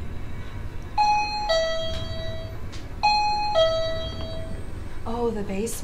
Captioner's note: detector ticking